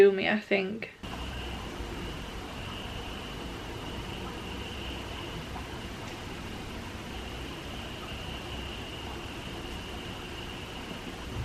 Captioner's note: rain sound